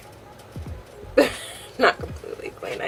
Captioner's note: laughs